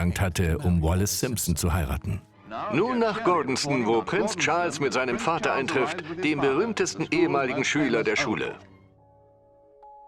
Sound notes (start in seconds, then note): 2.4 voiceover